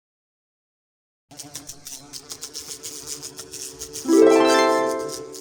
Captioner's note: flies buzzing